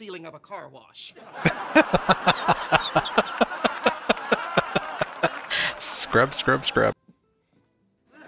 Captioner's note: laughing